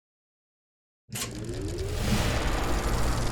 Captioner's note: film projector spinning